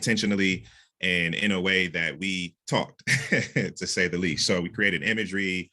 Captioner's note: chuckles